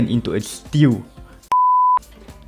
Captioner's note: beep